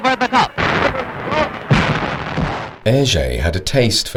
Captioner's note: explosion booming